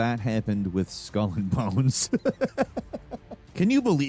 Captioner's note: laughs